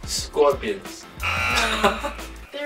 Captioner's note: buzzer